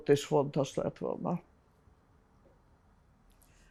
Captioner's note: pauses 13 seconds